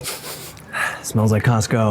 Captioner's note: sniffs